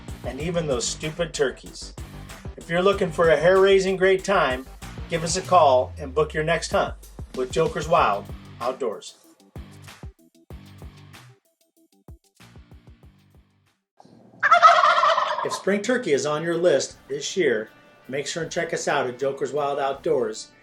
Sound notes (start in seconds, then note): 14.4 turkey gobbles